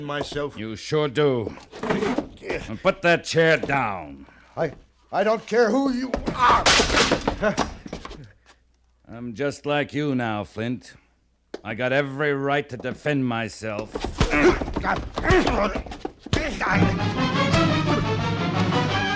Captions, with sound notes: You sure do. And put that chair down. I don't care who you are. I'm just like you now, Flint. I got every right to defend myself. (GRUNTING)